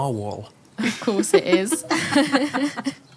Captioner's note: laugh